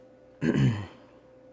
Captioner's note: coughing